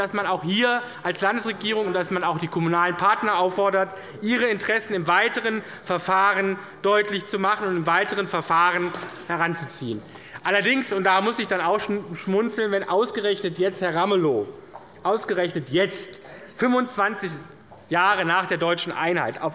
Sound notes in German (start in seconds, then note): none